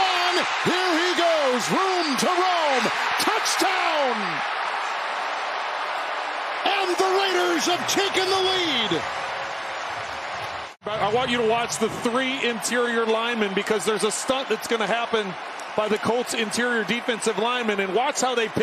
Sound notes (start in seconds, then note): 5.3 cheering and applause